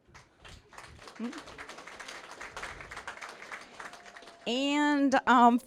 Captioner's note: applause